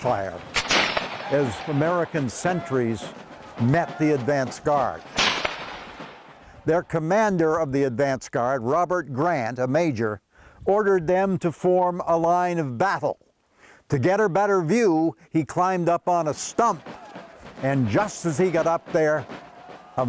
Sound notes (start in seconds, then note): 0.4 guns firing; 5.0 gun firing; 16.3 lively drumming